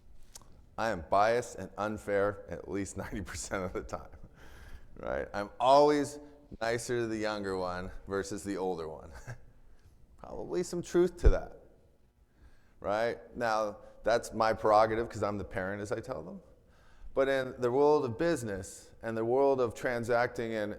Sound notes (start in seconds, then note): 9.0 chuckles